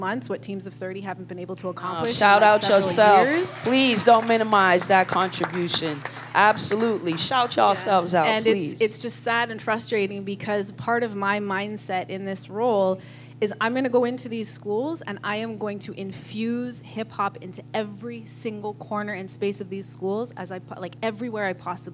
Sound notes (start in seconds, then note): 4.0 applause